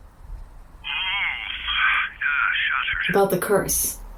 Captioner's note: yawning